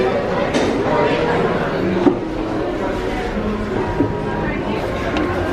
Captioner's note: people chattering